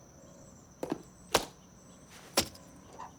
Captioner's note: clicking heels